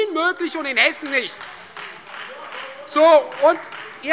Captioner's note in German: Beifall Freie Demokraten